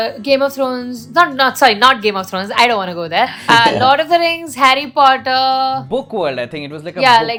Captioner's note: laughter